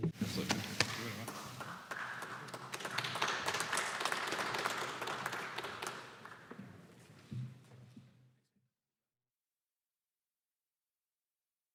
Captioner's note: applause